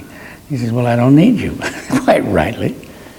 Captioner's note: laughs